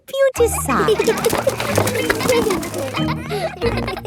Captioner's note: kids giggling